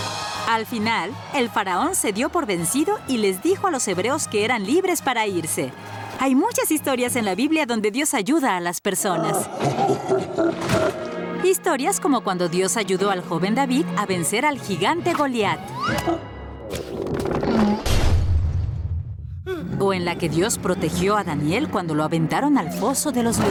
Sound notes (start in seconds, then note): 9.1 laughing; 16.7 crash; 16.8 thunk